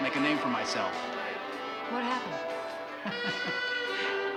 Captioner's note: chuckles